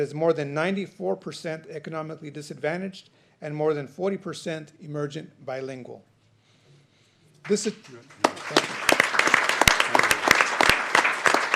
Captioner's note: applause